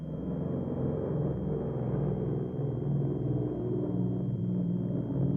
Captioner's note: plane engines roaring